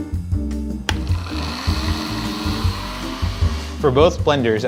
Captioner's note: blenders whirring